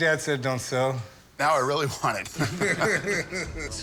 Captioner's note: laughter